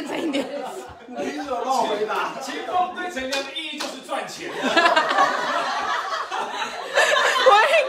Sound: everyone laughs

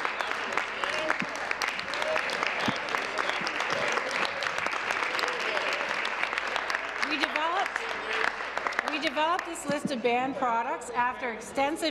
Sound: applause

